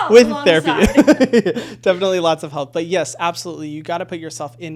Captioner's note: laughing